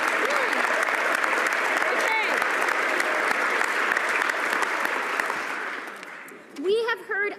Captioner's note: some Applause